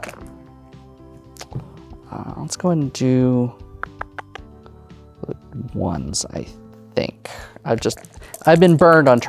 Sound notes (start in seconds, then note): 0.2 dice rolling; 3.8 clicks tongue; 7.8 dice rattling